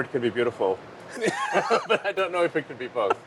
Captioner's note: laughter